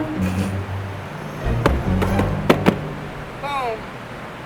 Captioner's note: patting